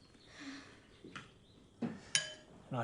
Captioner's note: sighs